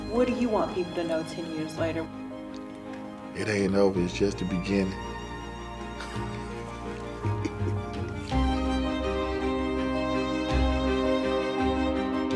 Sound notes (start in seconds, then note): 5.8 chuckles; 9.4 inspiring music